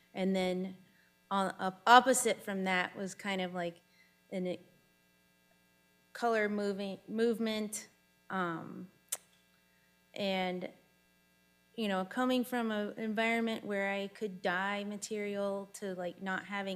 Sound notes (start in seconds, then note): none